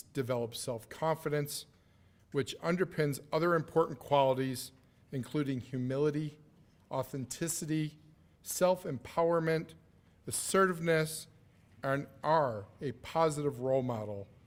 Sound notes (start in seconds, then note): none